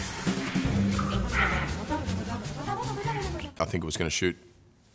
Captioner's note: fast-paced vocalizing